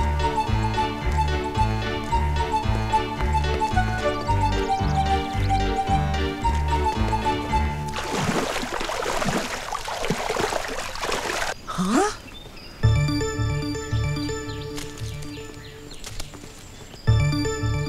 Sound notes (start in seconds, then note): 11.6 gasps